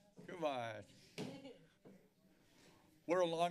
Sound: laughter

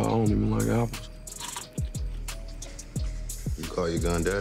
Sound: crunch

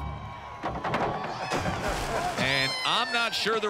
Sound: crowd cheering

